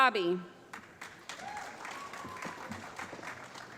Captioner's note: applause